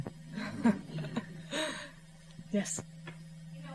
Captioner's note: laughs